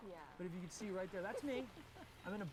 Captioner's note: risas